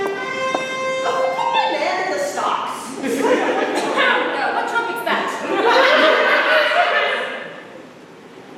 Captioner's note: trumpet sounds; laughter